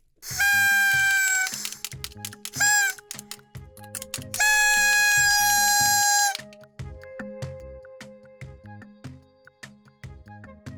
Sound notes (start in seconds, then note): 0.2 noise makers and clappers